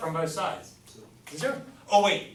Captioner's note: voiceover